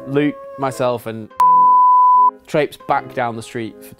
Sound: beep

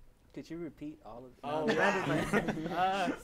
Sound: laughs

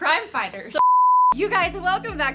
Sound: beep

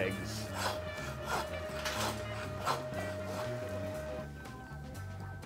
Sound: saw cutting through bone

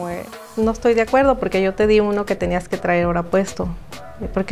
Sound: speaking Spanish

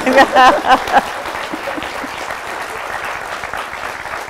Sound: audience applause

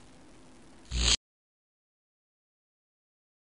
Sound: fizzle

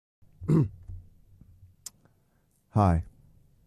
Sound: clears throat

